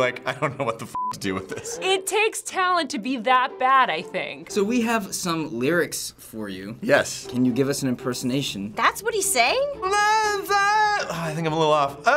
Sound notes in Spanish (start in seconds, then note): 0.9 pitido; 9.8 Chillando